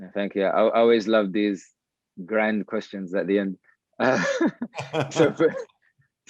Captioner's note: laughter